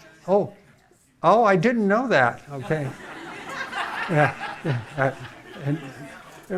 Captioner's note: audience laughing